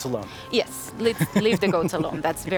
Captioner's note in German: lacht